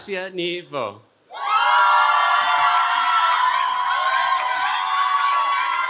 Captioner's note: cheering